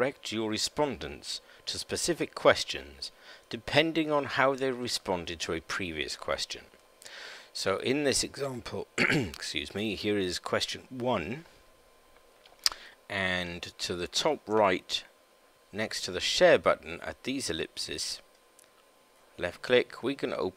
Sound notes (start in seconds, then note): 8.9 coughs